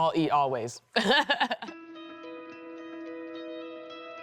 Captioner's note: laughs